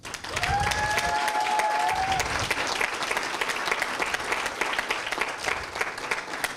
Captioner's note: applause and screams